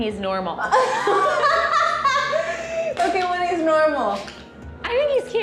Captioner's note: laughs